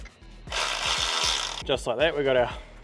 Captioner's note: power tool whizzes